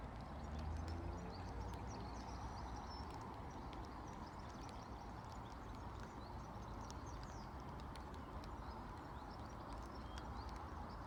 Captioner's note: gentle rainfall and bird song